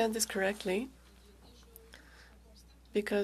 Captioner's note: speaking French